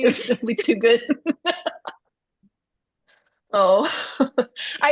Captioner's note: everyone laughing